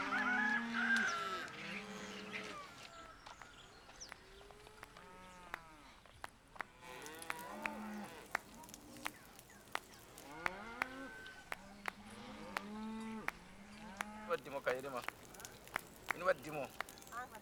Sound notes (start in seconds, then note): 4.6 footsteps; 6.0 fire crackling; 11.4 cows mooing; 13.4 speaking in local language